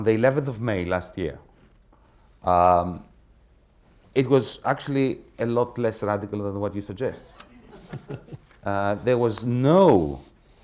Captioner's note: laughter